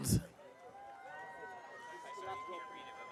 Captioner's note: audience cheering